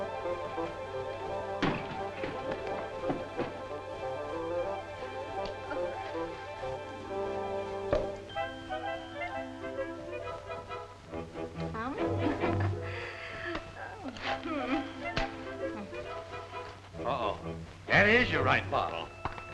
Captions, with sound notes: (cork pops) (upbeat music) Oh, oh. Hmm. - Oh, that is the right bottle.